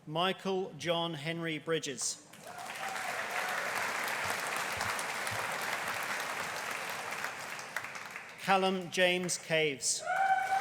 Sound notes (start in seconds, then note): 2.4 audience applauding; 2.4 audience cheering